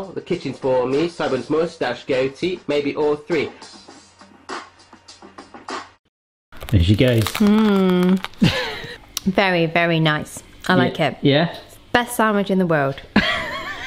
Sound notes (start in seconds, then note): 8.4 laughs; 13.1 both laugh